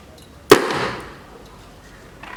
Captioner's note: explosion